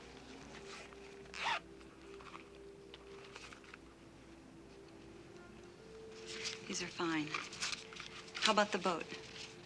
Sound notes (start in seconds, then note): 0.5 zipper opens